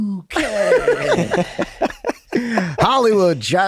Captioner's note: group laughs